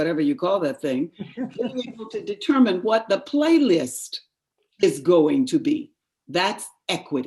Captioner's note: laughter